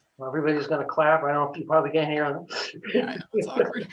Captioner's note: laughs